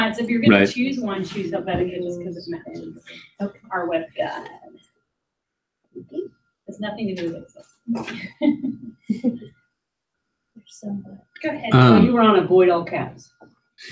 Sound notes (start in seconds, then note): 11.7 laugh